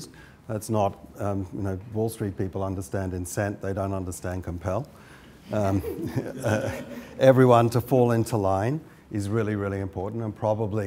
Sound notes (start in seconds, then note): 5.5 laughs; 5.6 laughter